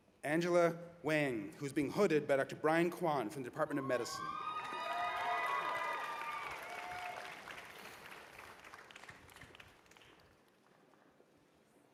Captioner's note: cheers and applause